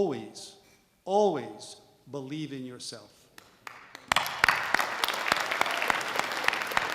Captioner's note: generous audience applause